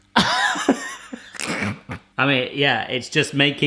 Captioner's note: laughing